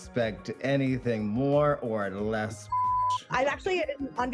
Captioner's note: beep